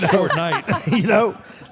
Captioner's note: Michelle laughs